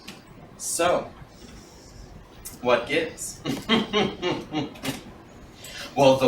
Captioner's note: mischievous laughter